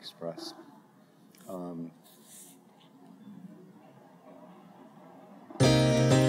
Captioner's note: silence